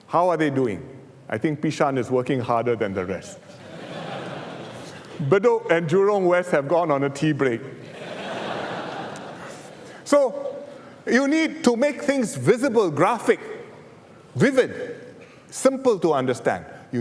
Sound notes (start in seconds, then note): 3.5 laughter; 7.8 laughter